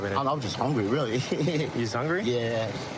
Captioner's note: laughing